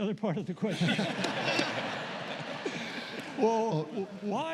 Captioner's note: laughter